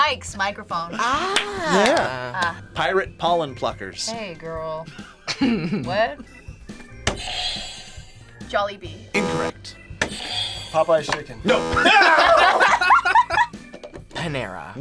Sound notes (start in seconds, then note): 5.3 laughs; 9.1 buzzer rings; 9.1 buzzer; 11.5 group laughs